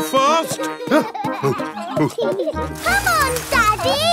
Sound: peppa and george laughing; panting

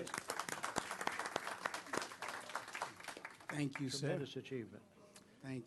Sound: applause

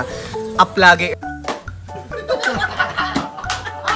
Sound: laughing

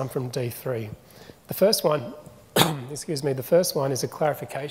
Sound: coughs

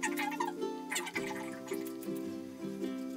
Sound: high pitched sped up talking

